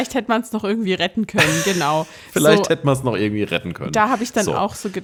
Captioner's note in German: gelächter